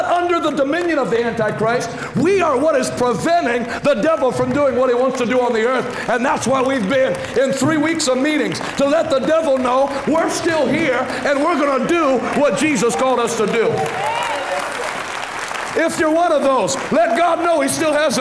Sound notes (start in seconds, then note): 13.6 cheering and applauding